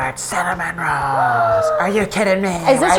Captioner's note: gasps